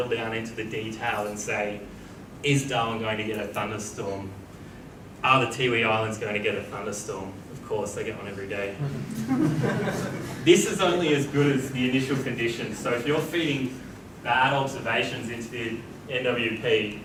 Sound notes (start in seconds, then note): 10.6 audience laughs